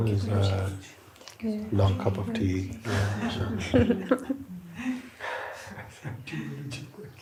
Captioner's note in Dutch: gelach